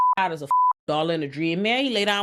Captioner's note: beep